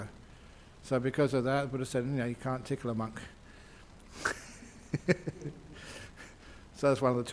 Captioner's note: Ajahn laughs